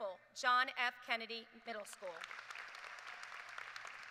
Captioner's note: cheers and applause